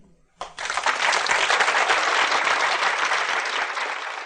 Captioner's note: audience applauding